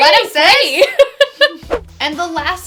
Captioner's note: laughs